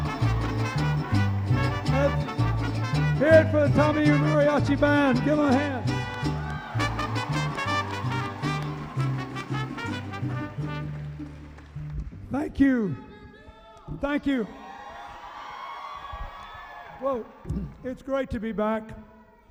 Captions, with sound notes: Let's hear it for TAMIU Mariachi band! Give 'em a hand! (cheering) Thank you! - [Voiceover] We love you, Bill! - Thank you! Whoa, it's great to be back.